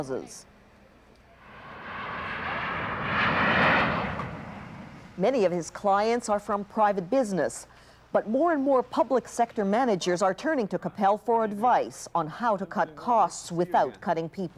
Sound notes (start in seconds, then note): 4.0 airplane engines roar